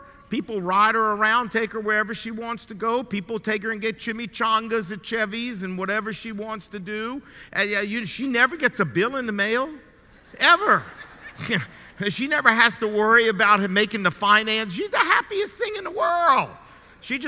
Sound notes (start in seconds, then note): 10.1 audience laughing